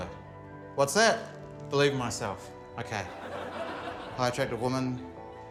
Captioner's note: laughter